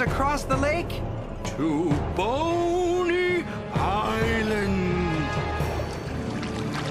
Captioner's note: creepy Voice